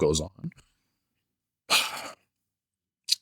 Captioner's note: sighs